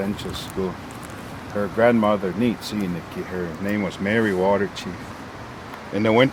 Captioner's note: speaking in Blackfoot